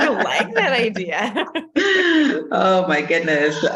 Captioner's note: laughter